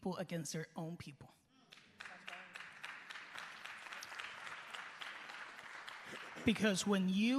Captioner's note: applause